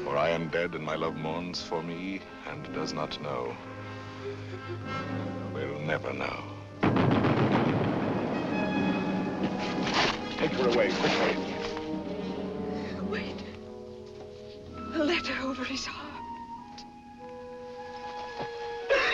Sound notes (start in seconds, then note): 7.3 rapid gunfire; 8.7 bugle calls